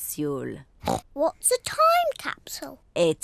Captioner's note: oinks